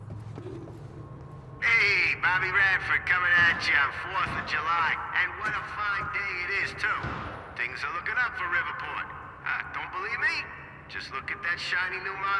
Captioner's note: on the radio